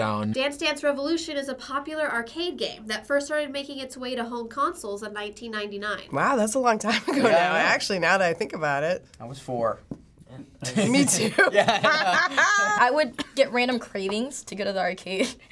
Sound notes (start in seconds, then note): 10.6 both laugh